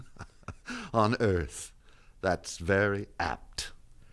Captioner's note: chuckles